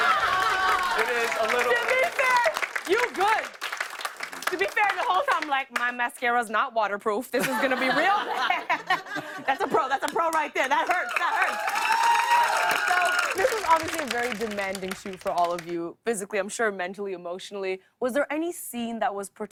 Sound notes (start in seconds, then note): 10.7 cheers and applause